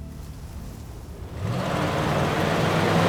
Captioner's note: intense wind; car accelerating